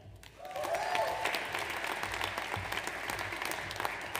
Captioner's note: audience applauds